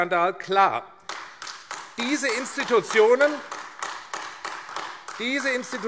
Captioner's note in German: Beifall AfD